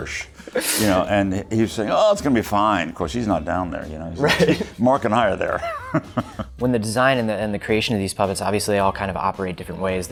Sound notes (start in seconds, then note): 5.5 laughing